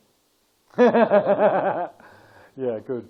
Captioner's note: laughter